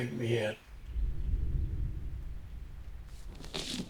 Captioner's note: booming